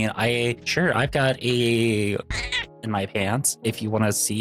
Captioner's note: meow